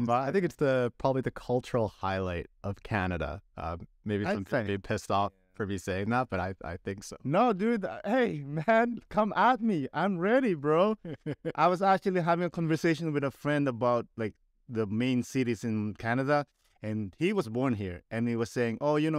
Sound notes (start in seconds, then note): 10.8 laughter